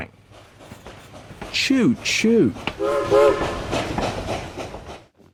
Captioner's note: train whistle blows